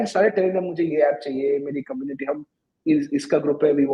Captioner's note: speaking hindi